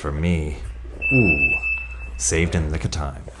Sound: alarm beeps

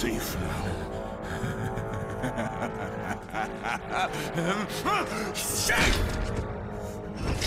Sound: laughs

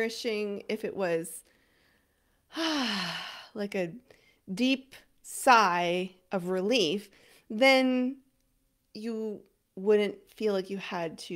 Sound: sigh

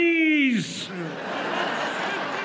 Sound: laughter

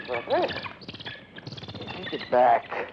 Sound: bird chirping

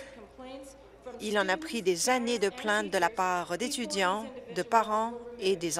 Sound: none

